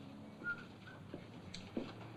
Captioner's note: whistling